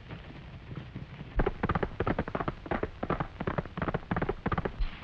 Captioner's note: hooves clattering